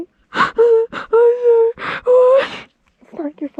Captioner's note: Mollie sobbing